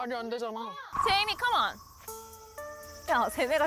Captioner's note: A strategy meeting is needed sound effect